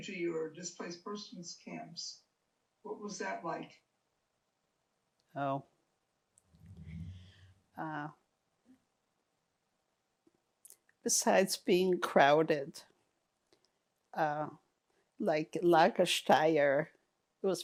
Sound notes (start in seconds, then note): 6.0 pauses 6 seconds